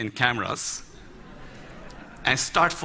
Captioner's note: Laughter; 笑聲